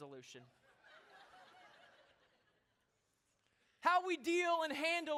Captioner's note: laughter